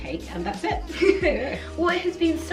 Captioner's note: laughs